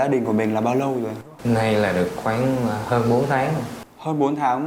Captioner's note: huu